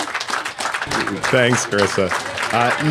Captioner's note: applause